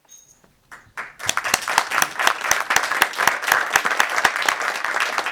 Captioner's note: audience clapping